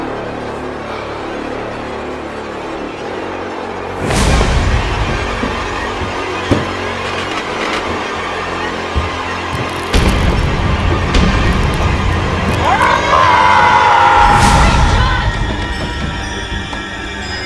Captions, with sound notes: [Demonic cry] - Richard? - Ahhhh!